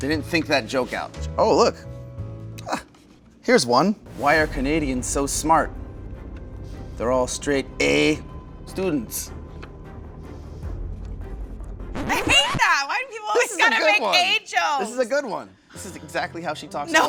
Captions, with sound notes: They didn't think that joke out. Oh look. Here's one. Why are Canadians so smart? They're all straight ehh students. (reverse whirring) - I hate that, why do people always gotta make ehh jokes? - This is a good one, this a good one. This is exactly how she talks all the time.